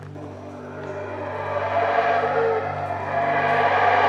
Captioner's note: monkeys howling